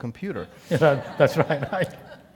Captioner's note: laugh